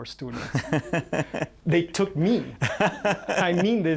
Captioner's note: laughter